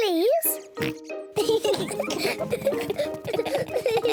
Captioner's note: oinks; both laugh